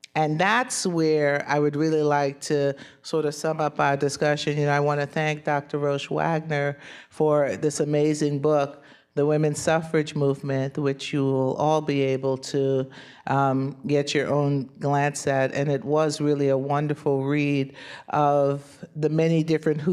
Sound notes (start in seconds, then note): none